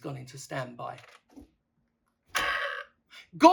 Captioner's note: burp